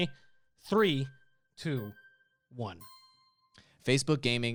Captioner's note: melodic timer